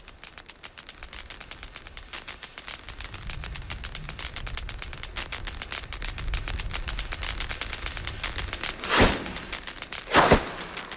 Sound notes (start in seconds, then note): 3.7 louder sparking and hissing, thundering rumble; 8.8 loud whoosh